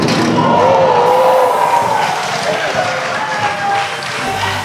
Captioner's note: spectators applauding